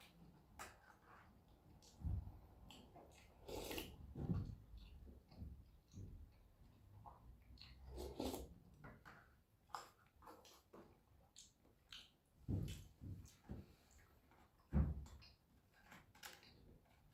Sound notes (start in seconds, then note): 3.1 slurp; 7.5 slurp; 9.6 omnom